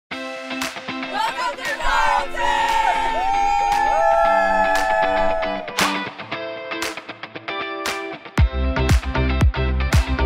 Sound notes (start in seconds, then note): 3.3 students cheer; 5.8 lively electronic music